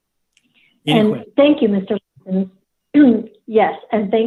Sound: clears throat

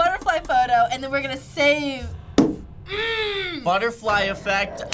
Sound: grumbling

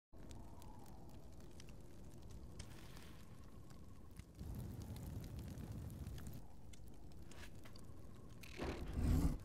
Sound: fire crackling gently

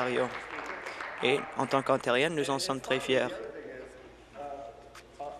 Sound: applause

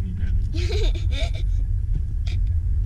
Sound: laughing

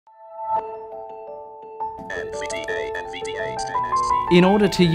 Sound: synthesized voice

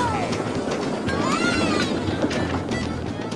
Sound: happy sounds; Pac-Man yelps

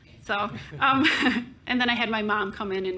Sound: both chuckle

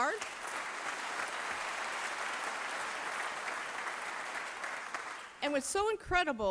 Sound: applause

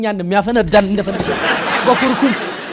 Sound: laughter

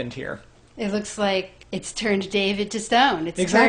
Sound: voiceover

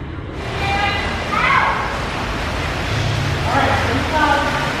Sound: water rushing

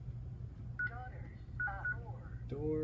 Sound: alarm responding

